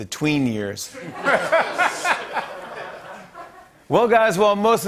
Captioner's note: laughter